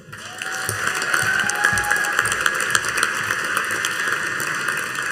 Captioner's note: audience cheering and applauding